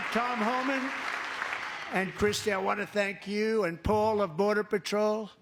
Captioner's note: applause